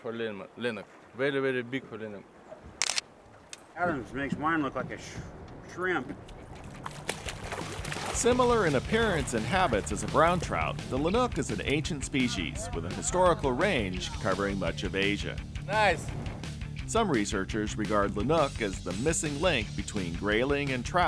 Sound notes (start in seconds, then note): 2.8 camera shutter; 6.4 fish splashing